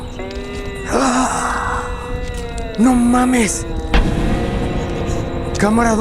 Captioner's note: groan